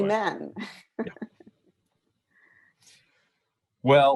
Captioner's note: laughs